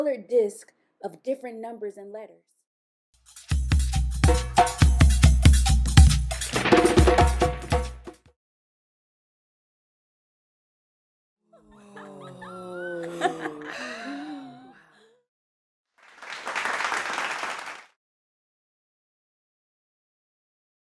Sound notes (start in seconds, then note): 11.4 laughter; 13.6 sigh; 16.0 applause